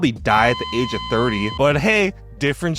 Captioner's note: heart monitor droning